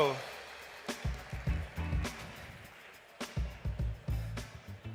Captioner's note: audience clapping; bright music